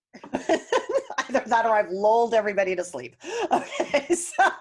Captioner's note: laughs; laughs